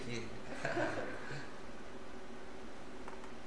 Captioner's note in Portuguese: risos